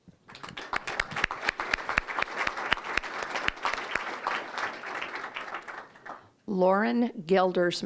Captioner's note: audience chuckling; applause